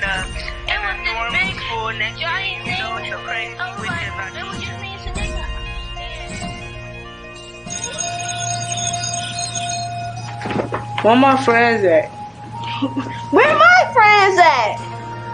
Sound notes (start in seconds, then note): 0.8 both chattering; 7.6 bell ringing